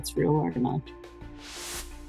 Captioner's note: whooshing